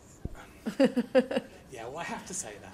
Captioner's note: laughs